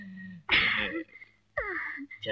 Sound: sighs

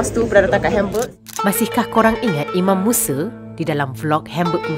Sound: camera snap

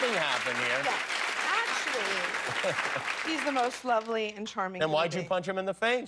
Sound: applause

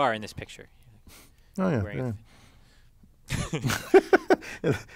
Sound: laugh

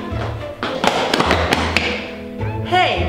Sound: loud footsteps

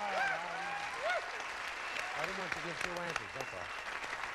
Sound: audience applauding

